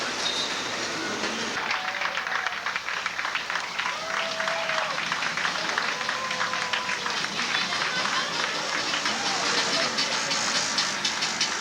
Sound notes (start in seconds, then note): 4.2 clapping